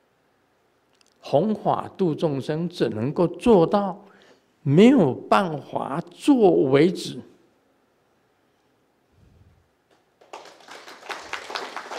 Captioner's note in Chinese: 眾鼓掌